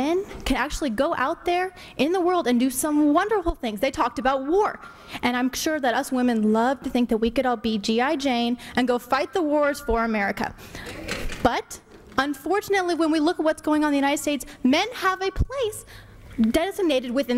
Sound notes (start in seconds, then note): none